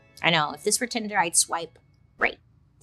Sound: none

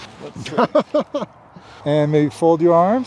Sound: laughter

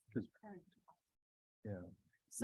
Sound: indistinct conversation

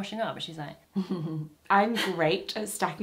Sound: she giggles gently

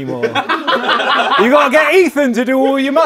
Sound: people laughing

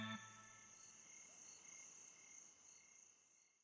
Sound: crickets chirp

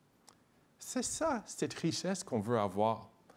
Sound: speaking in French

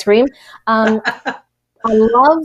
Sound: laughs

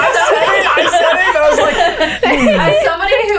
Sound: laughter

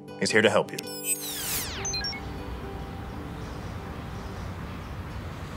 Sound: effects whooshing

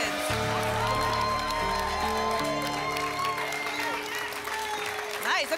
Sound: applause and cheering

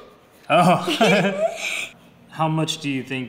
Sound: laughing

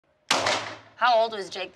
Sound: gunshot

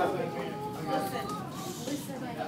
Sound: child crying

